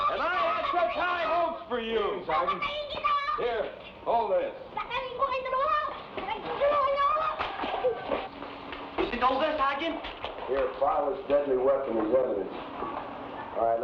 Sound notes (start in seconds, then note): 5.3 boy speaking in Tagalog